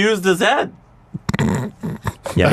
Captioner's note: snort